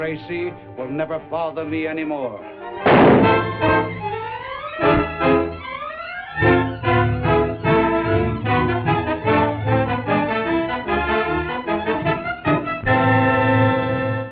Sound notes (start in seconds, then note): 2.8 gunshot; 2.9 dramatic music